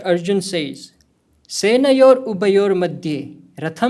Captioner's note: speaking hindi